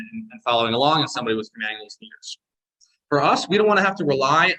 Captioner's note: audio distortion